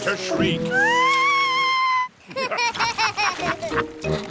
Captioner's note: shrieks; laughter